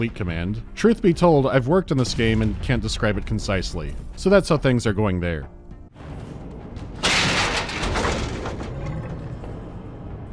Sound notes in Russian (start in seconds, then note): 6.8 лязг металла; 8.7 низкое, угрожающее рычание